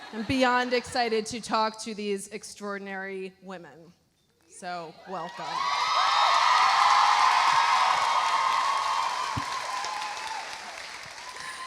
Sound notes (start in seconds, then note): 5.4 audience cheering; 5.5 audience applauding